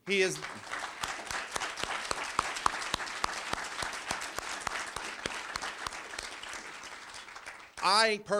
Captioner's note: applause